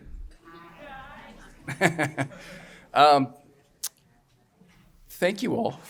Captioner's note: chuckles